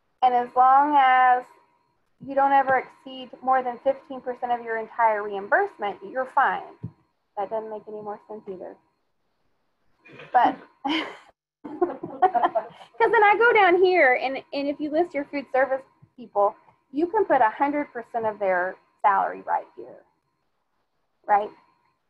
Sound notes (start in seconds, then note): 11.7 laughing